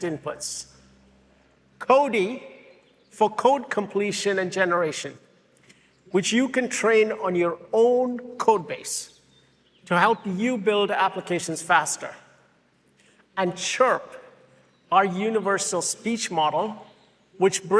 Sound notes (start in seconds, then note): none